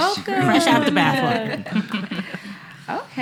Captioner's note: laughing